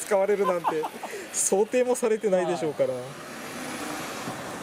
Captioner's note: laughs